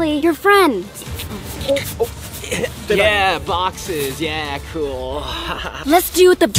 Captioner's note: laughs